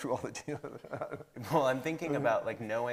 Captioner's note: laughing